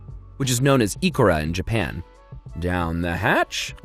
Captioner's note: speaks in foreing language